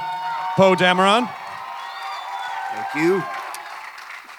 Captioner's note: audience cheers